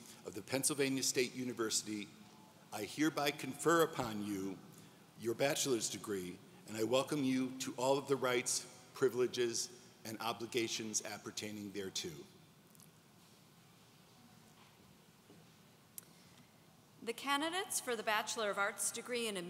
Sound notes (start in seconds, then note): none